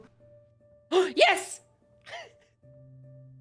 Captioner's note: gasps; laughs